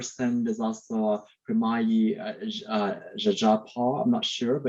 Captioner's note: french